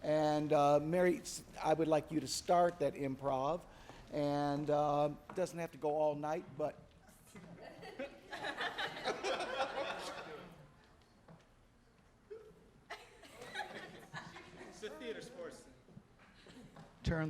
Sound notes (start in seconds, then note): 7.6 audience laughing